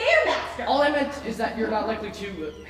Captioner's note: audience laughing